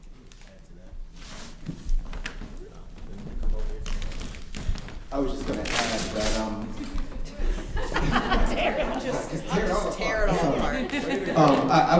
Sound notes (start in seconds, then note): 3.1 speaking faintly; 6.8 laughing